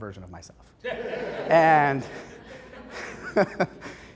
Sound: laughing

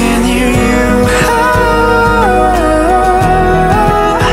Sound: hah

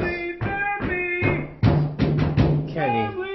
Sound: bang! bang! bang bang bang!

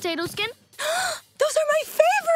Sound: gasping

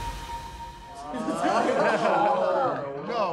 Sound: laughter

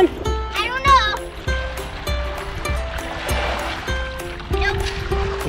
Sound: water splashing

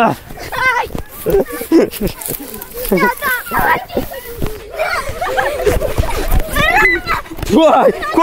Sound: gasps of amazement

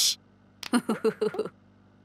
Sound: laughing

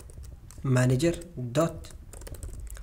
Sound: typing again

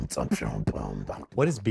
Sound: beatboxing

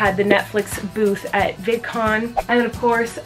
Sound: whooshing

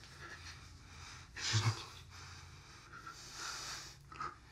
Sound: gasps with surprise

